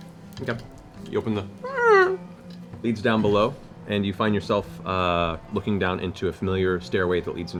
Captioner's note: creaks